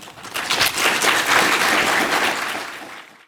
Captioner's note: applause